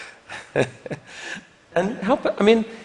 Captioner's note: laughter